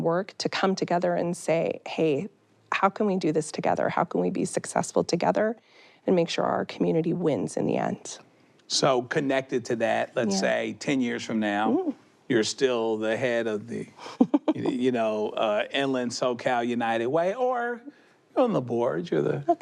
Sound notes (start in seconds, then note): 14.0 chuckles